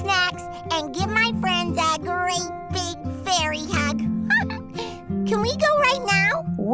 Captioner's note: chuckles